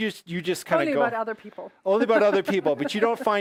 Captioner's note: laughs